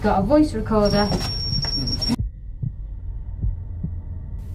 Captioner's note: rapid beeping